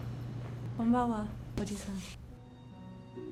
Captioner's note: Michiko speaking foreign language; gentle music